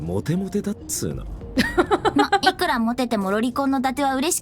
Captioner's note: chuckles